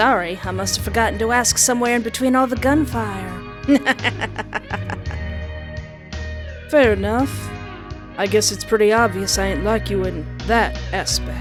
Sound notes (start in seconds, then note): 3.7 laughter